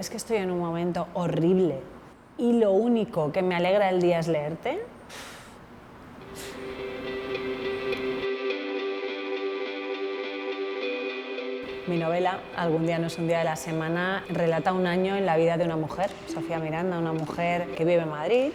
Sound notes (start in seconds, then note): 6.3 puffs